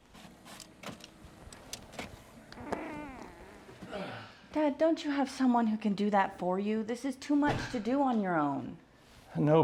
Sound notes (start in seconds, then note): 2.9 Mr. Blackburn grunting